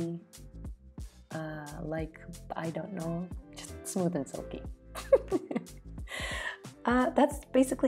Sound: laughs again..yes she laughs a lot

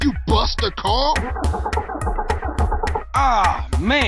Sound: attempting to start car's engine

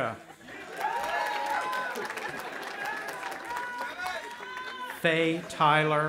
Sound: audience applauding and cheering

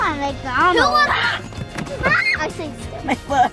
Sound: screaming

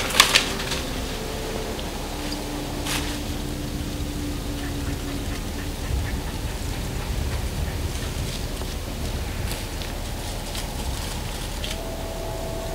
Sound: sound of chasing in the leaves; light wind

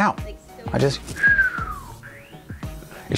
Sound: whistles

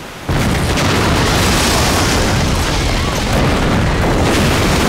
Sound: explosions; screaming

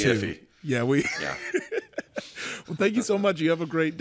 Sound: laughs quietly

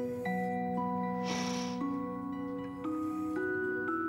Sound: Olive sniffles

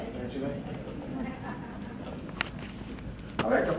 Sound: woman laughing

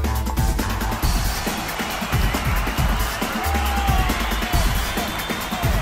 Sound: crowd cheering

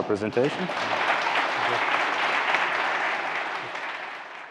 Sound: audience applauding

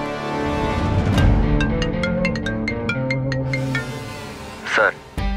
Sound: phone ringing

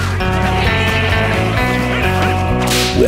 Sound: growling

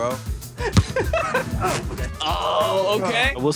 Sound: laughs

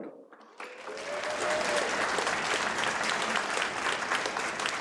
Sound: audience applauds

